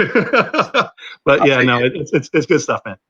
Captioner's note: laughter